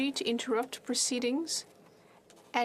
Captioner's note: speaking French